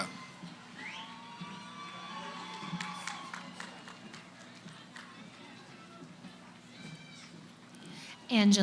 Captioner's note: cheering